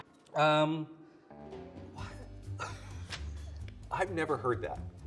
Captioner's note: laughs